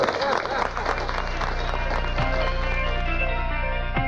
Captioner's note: applause